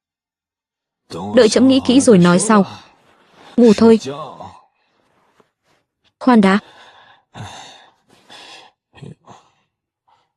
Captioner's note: thở dài